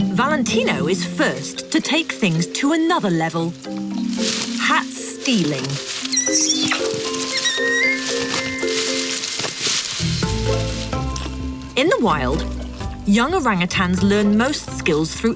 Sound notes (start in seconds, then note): 6.0 orangutan squealing